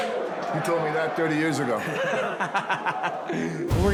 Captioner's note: laughing